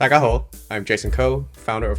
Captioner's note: Cantonese